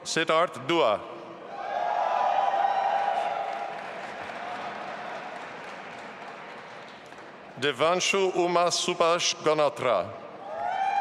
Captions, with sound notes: Sidharth Dua. (audience applauding and cheering) Devanshu Uma Subhash Ganatra.